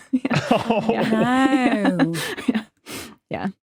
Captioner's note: group chuckling